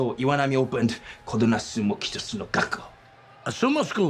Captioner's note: speaking in foreign language